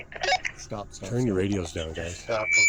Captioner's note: radio chirps